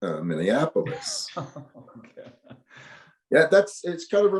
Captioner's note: laughs